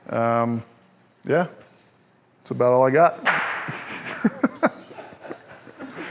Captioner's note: laughs